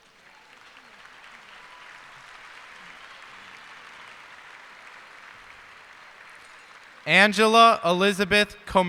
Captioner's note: cheers and applause